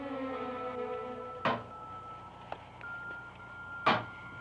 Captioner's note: door banging